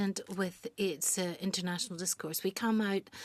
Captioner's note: speaking French